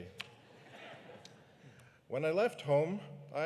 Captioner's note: audience laughing